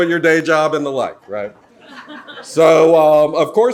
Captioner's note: audience laughs